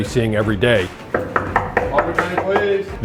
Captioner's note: knocking on door